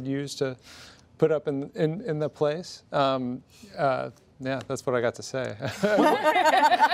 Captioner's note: laughter